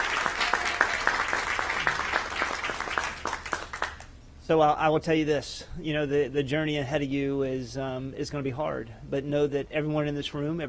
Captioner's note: applause